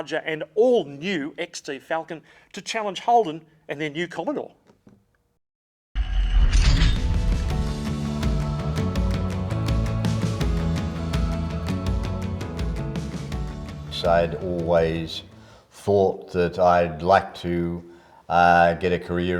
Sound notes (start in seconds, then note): 6.4 metal clanking; 7.5 upbeat tune